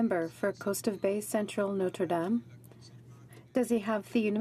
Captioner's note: speaking in french